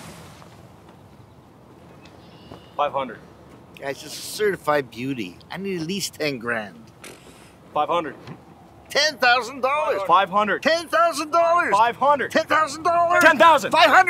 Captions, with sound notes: - $500. - Ah, it's a certified beauty. I need at least 10 grand. - (Scoffs) - $500. - $10,000 - $500. - $10,000. - $500. - $10,000. - $10,000. - $500.